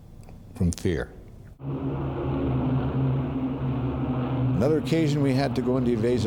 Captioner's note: plane engines rumbling